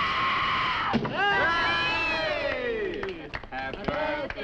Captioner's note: Nan screaming; people cheering